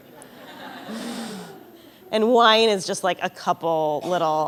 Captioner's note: laughter